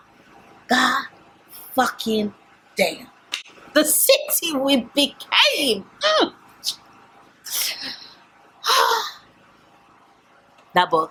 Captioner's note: sigh